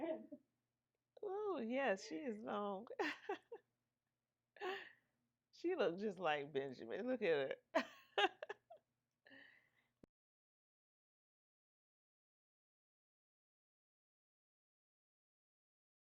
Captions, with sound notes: Ooh, yes, she is long. (chuckles) She looks just like Benjamin, look at her. (laughing)